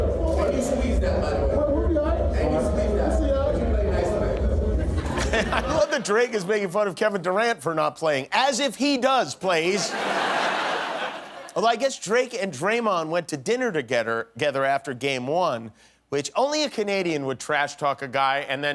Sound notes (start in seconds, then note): 9.7 laughter